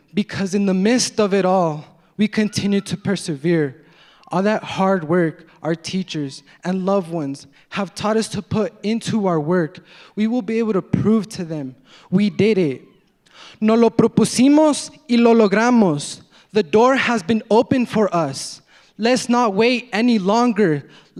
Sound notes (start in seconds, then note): 13.8 speaking in foreign language